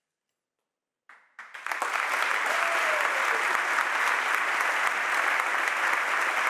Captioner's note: audience applauds and cheers